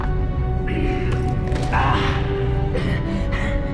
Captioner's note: grunting